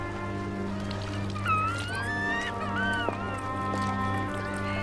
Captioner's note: children crying